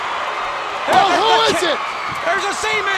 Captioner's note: steel chair thudding